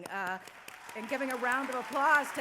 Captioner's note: applause